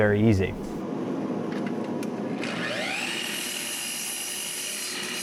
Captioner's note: machine revving